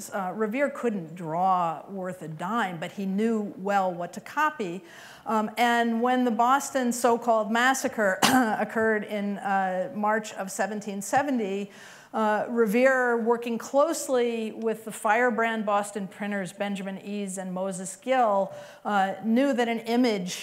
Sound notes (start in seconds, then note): 8.2 clears throat